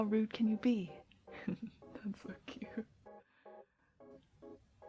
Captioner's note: laughs